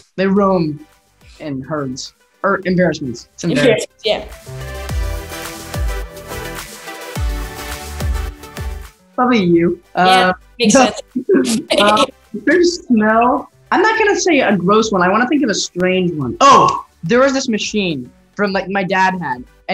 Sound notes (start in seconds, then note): 5.2 upbeat music; 10.6 laughing